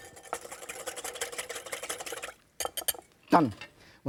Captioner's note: whisking continues